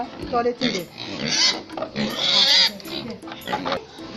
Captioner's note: piglets squealing